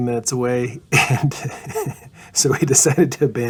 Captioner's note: laughing